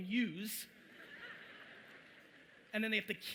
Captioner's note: audience chuckling